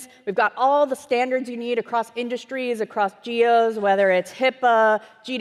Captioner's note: none